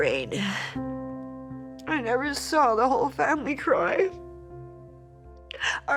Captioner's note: sobbing